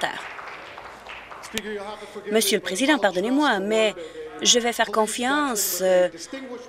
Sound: applause

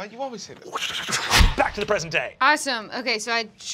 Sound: whooshing

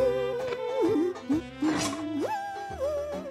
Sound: laughing

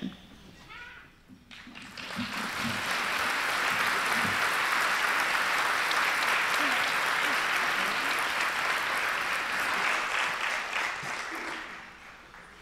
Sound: applause

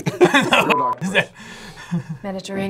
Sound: both laugh

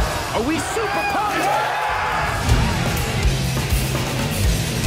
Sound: crowd cheering

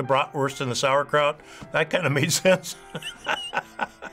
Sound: chuckles

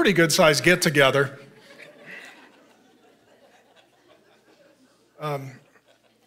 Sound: congregation laughing

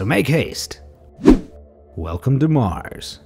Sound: air whooshing

